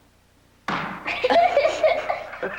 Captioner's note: thud